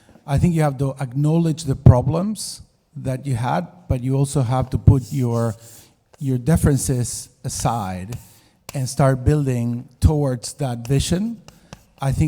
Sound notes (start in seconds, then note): none